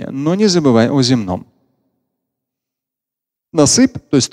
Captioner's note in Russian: Говорит на арабском